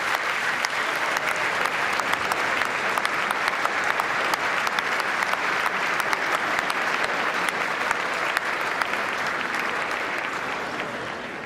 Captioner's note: applause